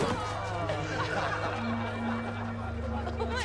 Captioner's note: laughter